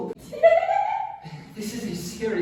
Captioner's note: giggles